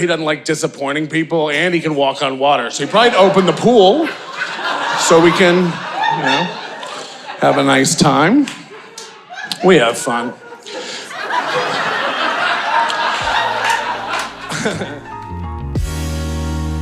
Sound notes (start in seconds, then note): 4.4 audience laughing; 11.1 audience laughing